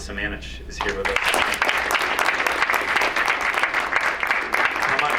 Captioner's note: crowd applauds